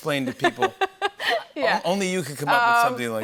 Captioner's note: laughs